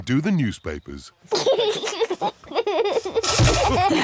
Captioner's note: snorts; giggles